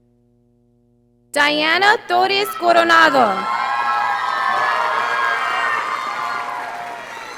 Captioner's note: audience applauding